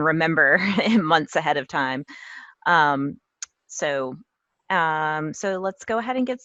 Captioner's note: laugh